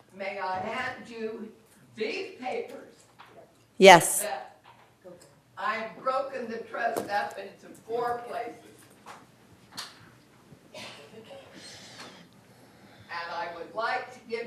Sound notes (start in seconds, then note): 3.3 speaking off microphone